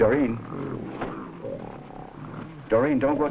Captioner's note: gorilla grunting